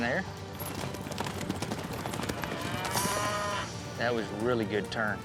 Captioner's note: hoof beats, mooing